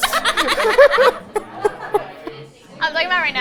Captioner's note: both laughing